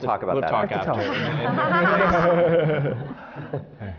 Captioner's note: laughter